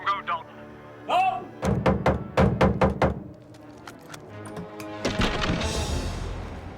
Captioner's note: fists thudding